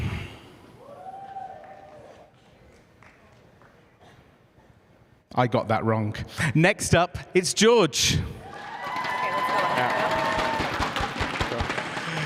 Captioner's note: cheers and applause